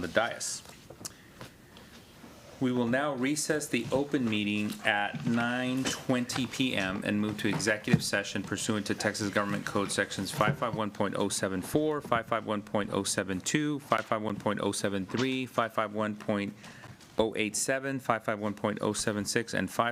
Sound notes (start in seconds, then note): none